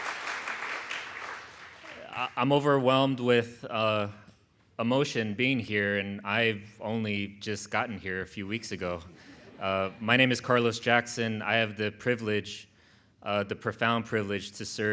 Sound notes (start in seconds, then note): 9.0 audience chuckles